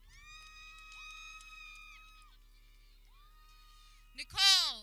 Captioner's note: people cheering